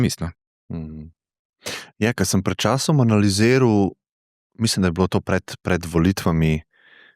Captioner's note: sigh